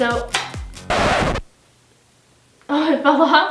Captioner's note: record scratching